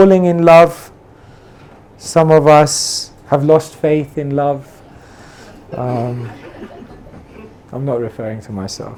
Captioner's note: laughing